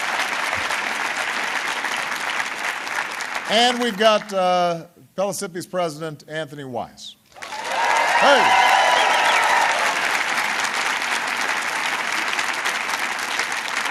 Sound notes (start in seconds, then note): 0.0 applause; 9.2 applause